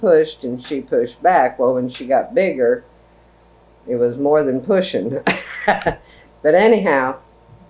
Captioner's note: laughs